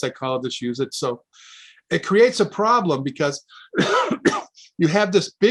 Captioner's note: coughs